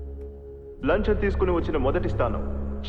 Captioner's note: echoing